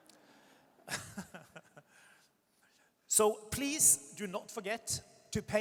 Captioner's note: audience chuckles; laughs